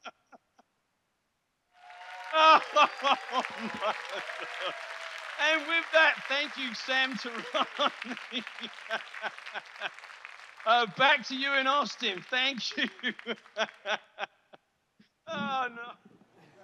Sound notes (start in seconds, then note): 1.7 audience clapping, cheering